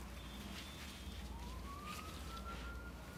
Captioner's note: distant siren wailing